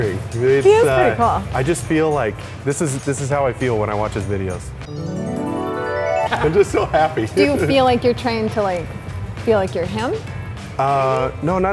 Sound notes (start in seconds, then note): 4.8 ascending chimes